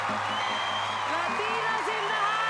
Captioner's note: cheering; screaming; cheering